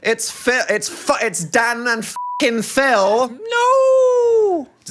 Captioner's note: beep